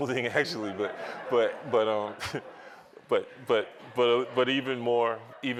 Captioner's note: laughter